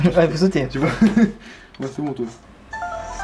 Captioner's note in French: Rires